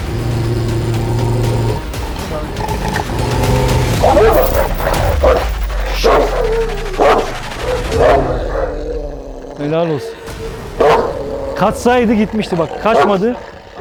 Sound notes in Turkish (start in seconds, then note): 0.0 Tansiyon müzik; 0.3 Hırlama sesi ve Tansiyon müzik; 4.1 Havlama sesi ve Tansiyon müzik